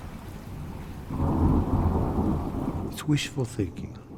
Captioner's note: thunder clashing